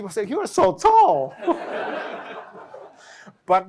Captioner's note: laughter